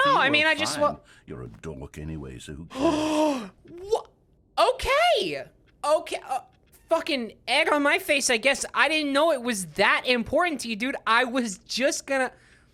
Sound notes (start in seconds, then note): 2.7 gasps in anger